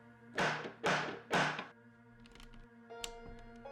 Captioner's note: door knocking